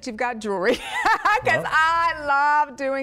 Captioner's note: laughter